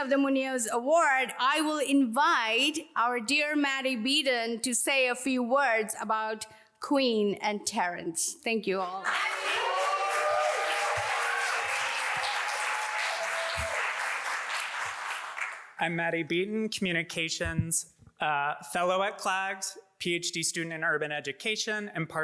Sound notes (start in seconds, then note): 9.0 audience applauds